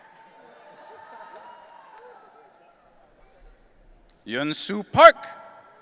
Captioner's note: audience cheering